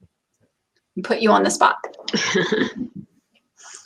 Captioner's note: laughs